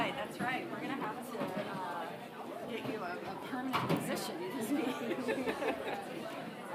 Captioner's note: laughs